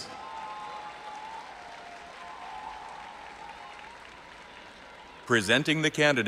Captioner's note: audience applauding and cheering